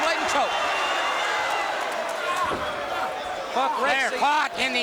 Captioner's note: crowd cheering